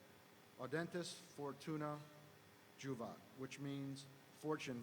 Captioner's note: speaking foreign language